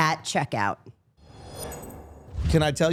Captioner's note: air whooshing